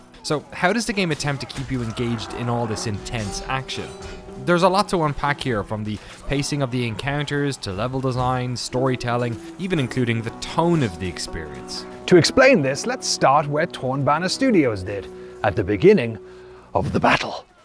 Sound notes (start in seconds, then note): 12.0 knightly voice